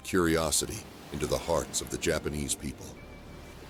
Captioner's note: waves crashing